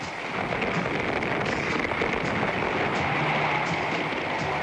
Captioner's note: fireworks crackling